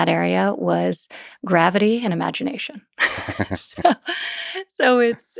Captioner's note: laughs